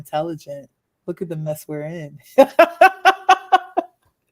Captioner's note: laughs